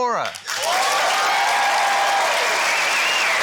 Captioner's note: cheering, applause